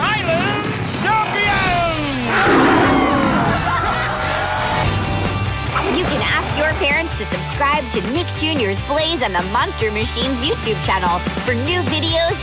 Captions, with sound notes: Your Animal Island champions! [making animal sounds] [cheering] You can ask your parents to subscribe to Nick Jr.'s Blaze and the Monster Machines YouTube channel